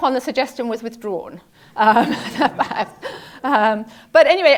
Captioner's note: laugh